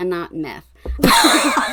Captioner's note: laughing